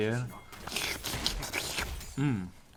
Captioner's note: slurps into mic